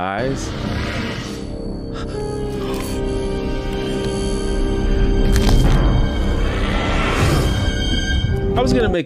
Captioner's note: squishing sound